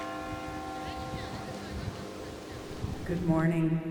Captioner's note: bell rings; crowd chattering